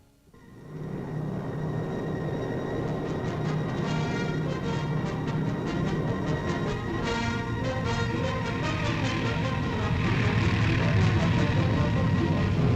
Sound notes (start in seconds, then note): 1.2 engines rumbling; 1.2 rousing orchestral music